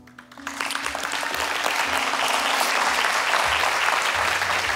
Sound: congregation applauding

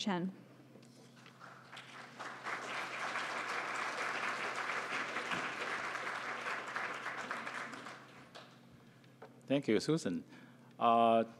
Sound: applause

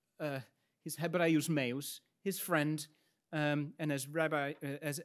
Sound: speaks in Latin

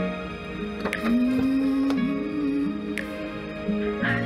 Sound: car doors open

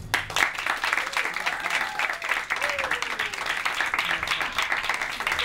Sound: cheering and applause

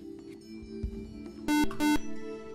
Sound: buzzer

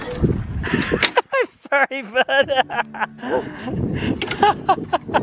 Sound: laughs

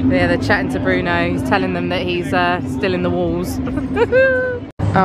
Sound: giggling

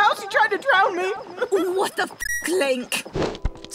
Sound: drops ZELDA impression

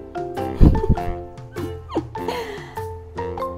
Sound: laughs

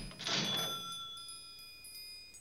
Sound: cash register dinging

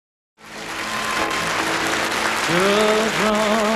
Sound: audience clapping

